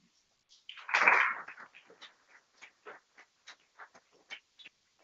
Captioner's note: people clapping